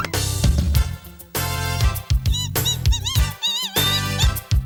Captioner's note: upbeat music; mice squeaking